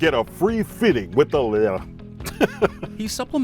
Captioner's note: laughs